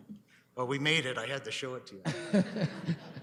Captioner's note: laughs